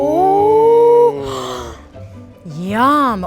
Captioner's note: gasping